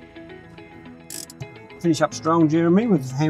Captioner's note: handbrake clicking on